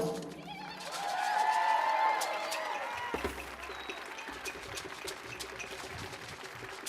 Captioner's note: people cheering; audience cheering